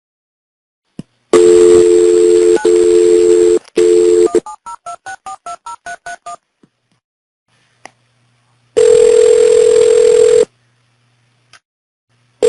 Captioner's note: phone dialling